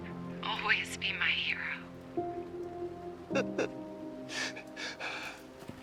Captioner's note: Mac sobbing